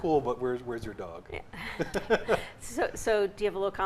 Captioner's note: laughs